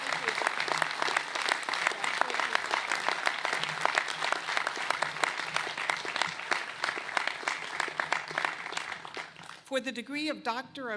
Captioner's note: applause